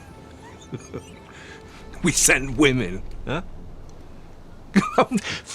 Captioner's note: laughs; laughs